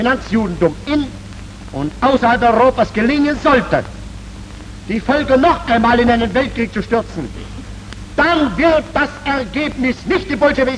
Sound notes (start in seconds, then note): 2.0 speaking foreign language